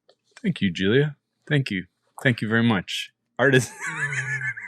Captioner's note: laughing